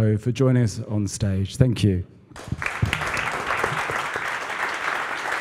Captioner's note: applause